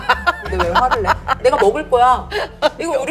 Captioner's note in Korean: 멈추지 않는 웃음